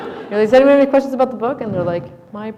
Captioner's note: laughter